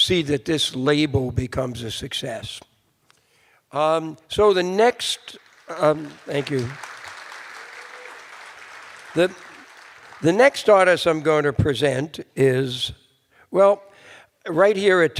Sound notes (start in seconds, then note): 5.4 cheers and applause